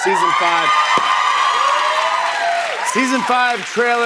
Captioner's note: cheers and applause